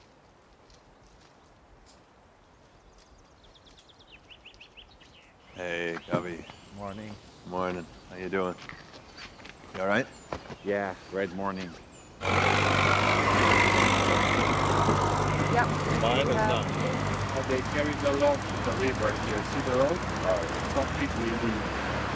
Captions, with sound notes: -Hey, Gabi. -Good morning. Good morning. How are you doing? -You all right? -Yeah, great morning. [indistinct chatter] They carry the logs and put it right here. Do you see the road? It's completely illegal.